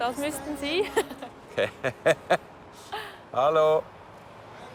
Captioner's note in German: Lachend